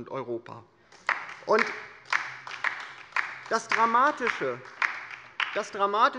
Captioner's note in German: Beifall bei der LINKEN